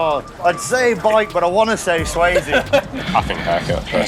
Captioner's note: laughs